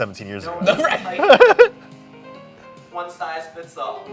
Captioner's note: laughing